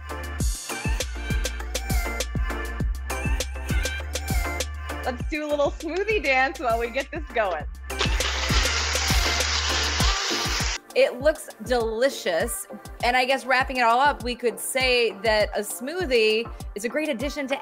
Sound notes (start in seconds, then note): 0.1 pop music; 8.0 blender whirring; 8.9 pop music